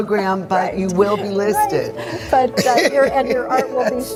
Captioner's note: laughs